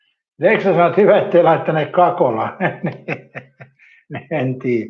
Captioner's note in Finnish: naurua